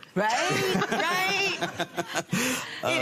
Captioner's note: laughter